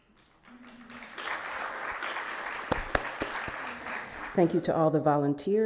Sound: audience clapping

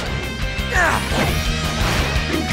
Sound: grunting

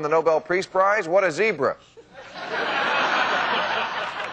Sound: crowd laughs

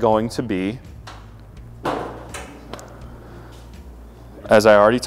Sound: grill lead creaking

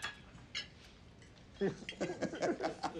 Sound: laughing

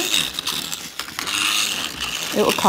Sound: motor vibrates intensely

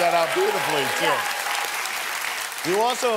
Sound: applause and cheering

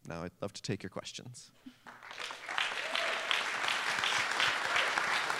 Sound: applause

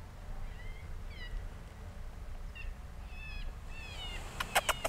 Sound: animal call; squeaking

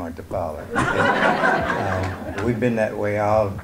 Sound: audience laughter

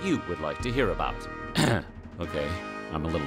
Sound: clears throat

